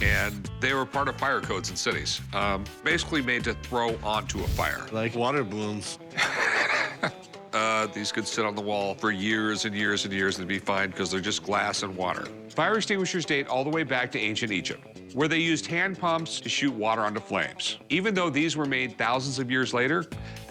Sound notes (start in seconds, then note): 6.1 laugh